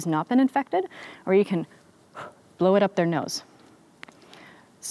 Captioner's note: exhales sharply